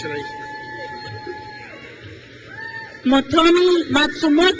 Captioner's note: crowd cheers